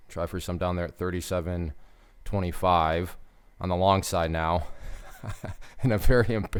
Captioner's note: laughs